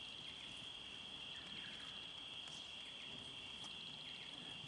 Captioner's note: rainforest noises